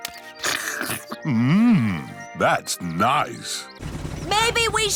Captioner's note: slurps